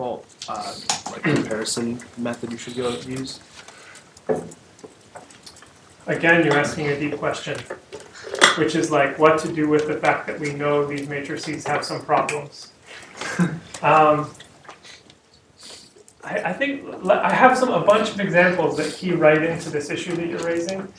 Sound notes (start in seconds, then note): 13.2 laughter